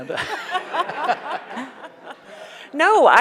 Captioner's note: laughs